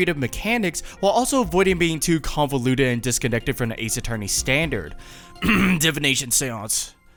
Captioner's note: cough